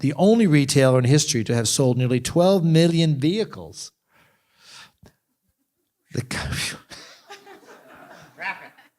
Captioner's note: laughter